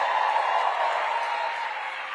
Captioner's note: cheering